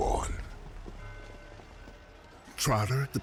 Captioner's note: bell chimes